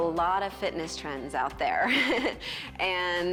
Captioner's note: chuckles